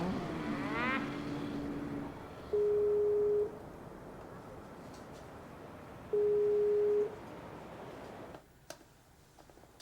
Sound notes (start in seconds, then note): 2.7 ringing